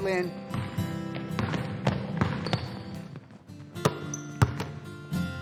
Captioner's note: ball bouncing